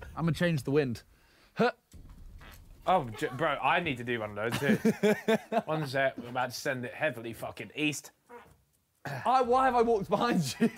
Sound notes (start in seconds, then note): 2.4 Simon farts; 8.3 Ethan farts